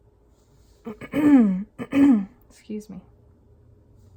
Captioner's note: cleared my throat